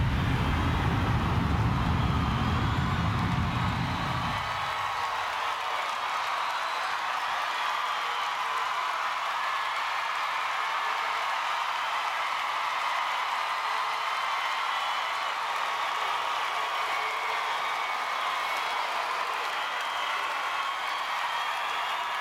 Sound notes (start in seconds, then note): 5.7 applause